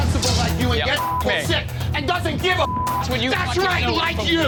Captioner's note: beep